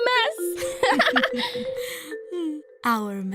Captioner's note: Cabby and Bot chuckle